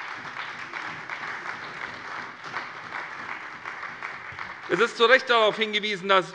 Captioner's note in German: Beifall bei der SPD